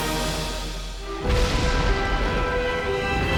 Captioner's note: thunder crashing